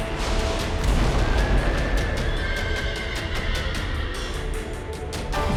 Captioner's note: horses neighing